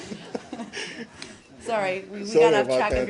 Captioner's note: laughter